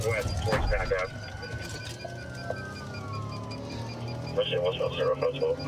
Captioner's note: sirens wailing